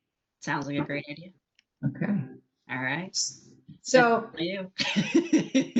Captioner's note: both laughing